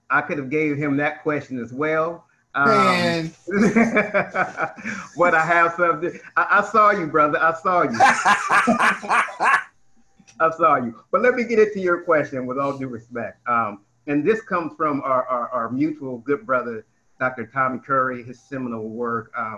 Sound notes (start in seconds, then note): 3.4 laughs